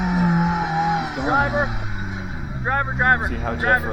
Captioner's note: engine revving